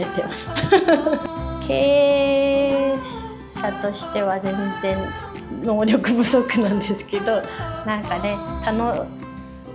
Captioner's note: laughs; laughs